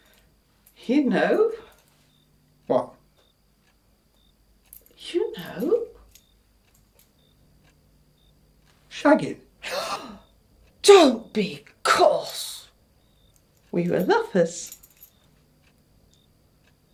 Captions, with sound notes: - What? - You know. - Shagging? (Mrs. Wells gasps) - Don't be coarse. We were lovers.